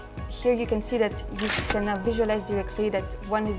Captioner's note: cash register cha-ching